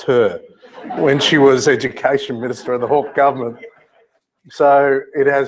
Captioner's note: laugh